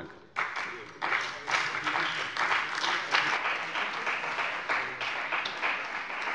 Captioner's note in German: Beifall bei der CDU und dem BÜNDNIS 90/DIE GRÜNEN